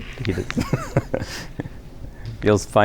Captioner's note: laughter